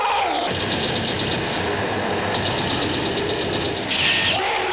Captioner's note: gunfire